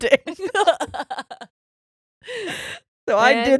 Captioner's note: laughing